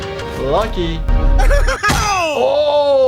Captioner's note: characters laughing